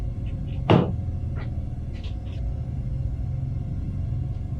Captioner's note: something bangs